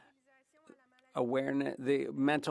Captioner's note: speaking French